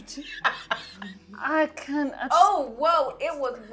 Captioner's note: laughing